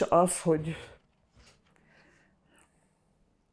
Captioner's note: pauses 8 seconds